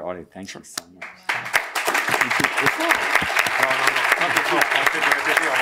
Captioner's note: applause